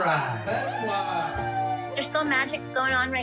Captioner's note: people cheering